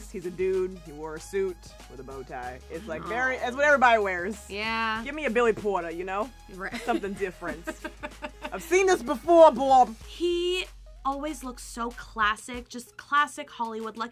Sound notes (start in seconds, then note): 7.5 laughs